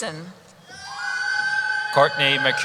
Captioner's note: cheering